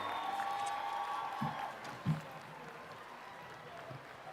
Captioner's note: applause